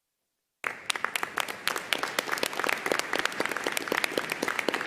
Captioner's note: audience applauding